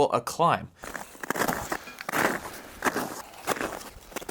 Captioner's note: snow crunching